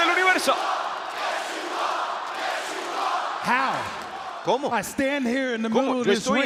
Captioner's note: applause; applause